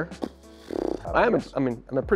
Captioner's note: blows raspberry